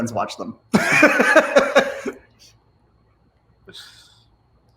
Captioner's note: all of them laughs